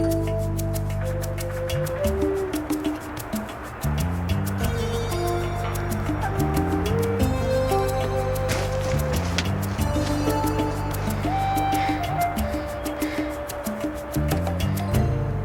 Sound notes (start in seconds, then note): 12.7 Curtis panting